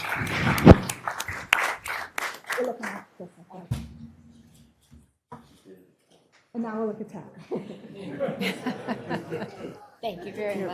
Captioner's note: applause